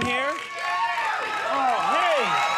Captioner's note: audience cheering